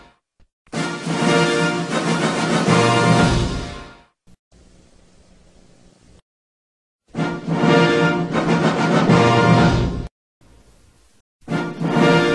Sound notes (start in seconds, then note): 4.6 VHS static; 7.2 rousing fanfares resuming